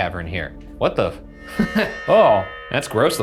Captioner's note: chuckles